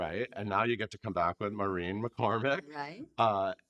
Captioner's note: laughing